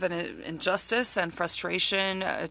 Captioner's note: speaking French